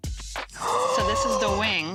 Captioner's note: gasping